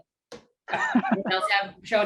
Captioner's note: laughter